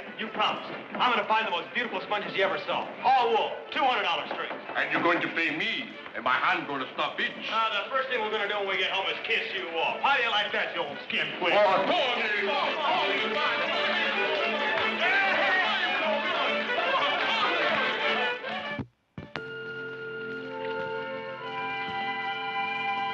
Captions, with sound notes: You promised. I'm gonna find the most beautiful sponges you ever saw. All wool, $200 strings. >> And you're going to pay me, and my hand gonna stop itch. >> Oh, the first thing we're gonna do when we get home is kiss you off. How do you like that, you old skin flint? (men cheering) (soft orchestral music)